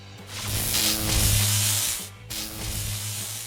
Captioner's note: electric buzz